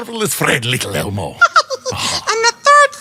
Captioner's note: elmo laughs